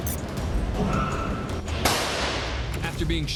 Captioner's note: shot fired